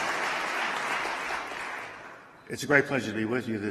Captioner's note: applause